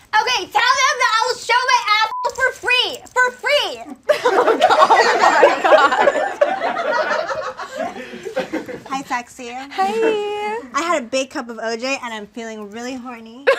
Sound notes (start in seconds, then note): 2.0 beep; 4.1 audience laughs